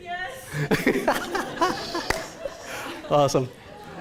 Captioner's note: laughter